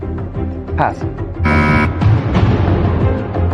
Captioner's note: buzzer sounds